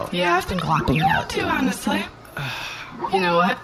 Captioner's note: sighs